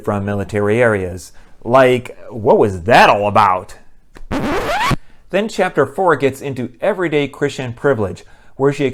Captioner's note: record scratch